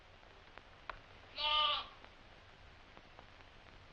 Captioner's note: bleating